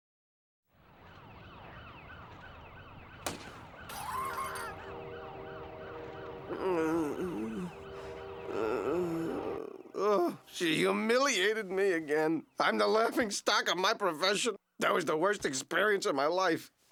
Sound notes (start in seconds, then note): 3.1 glass breaks; 3.9 woman screams; 6.3 groaning